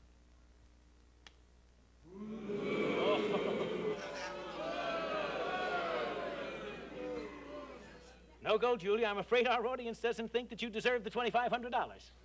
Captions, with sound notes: [Soft slap.] [Audience boos, laughs] No go, Julia. I'm afraid our audience doesn't think that you deserve the twenty five hundred dollars.